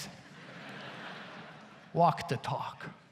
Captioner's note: audience laughs